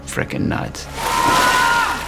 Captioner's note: screams